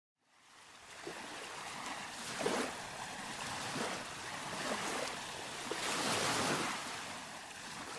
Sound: sounds of waves

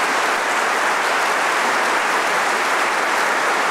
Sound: applause

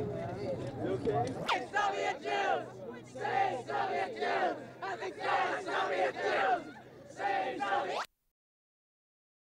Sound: chanting

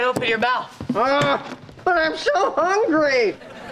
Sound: groaning

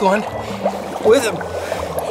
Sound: bubbling

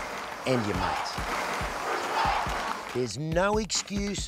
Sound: crowd chanting

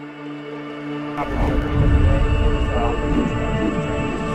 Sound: dramatic music; radio

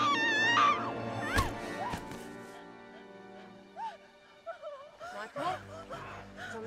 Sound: thud

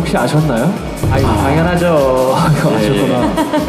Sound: in a male voice

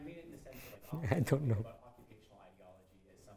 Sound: laughing

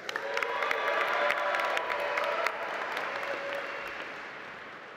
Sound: audience applauding

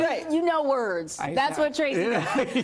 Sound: laughter

